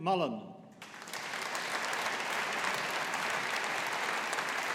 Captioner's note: audience applauding